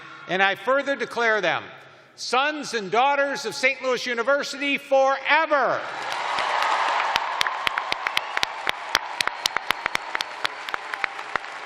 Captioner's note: cheers and applause